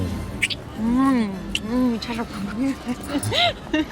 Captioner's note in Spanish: Risas